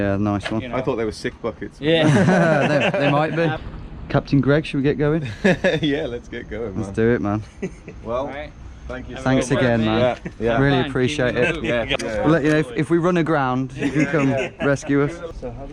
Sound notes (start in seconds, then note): 1.9 group laughs; 5.2 laughs; 13.7 group laughs